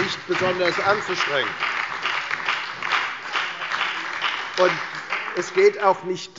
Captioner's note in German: Beifall bei der FDP, der SPD und der LINKEN